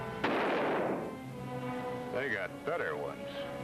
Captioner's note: gunshot bangs